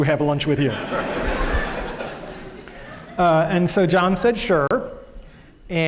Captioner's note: laughter